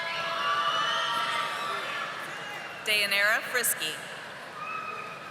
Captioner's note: audience applauding